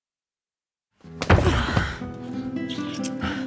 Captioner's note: grunting